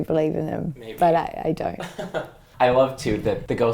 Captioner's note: laughs